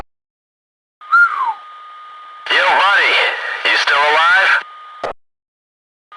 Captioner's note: whistle